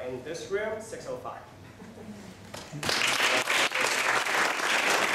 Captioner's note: applause